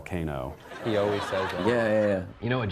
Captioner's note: laughter